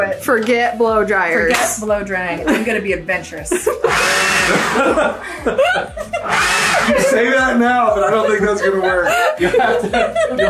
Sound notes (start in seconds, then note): 3.5 all laughing; 3.8 whooshing from leaf blower